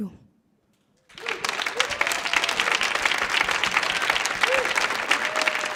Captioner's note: audience clapping